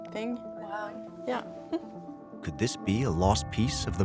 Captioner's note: chuckles